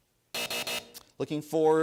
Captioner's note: buzzer